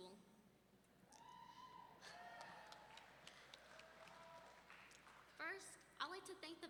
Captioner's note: audience members whooping and clapping